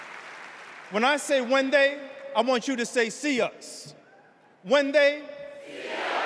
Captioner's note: cheers and applause